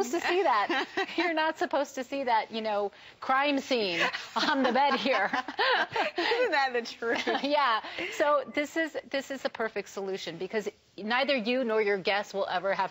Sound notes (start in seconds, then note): 4.0 laughter